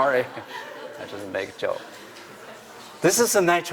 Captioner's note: laughter